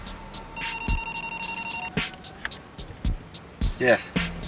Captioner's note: phone ringing